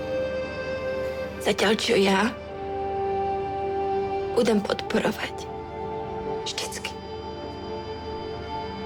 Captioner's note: Speaks Czech